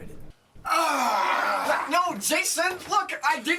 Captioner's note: aggravated grunt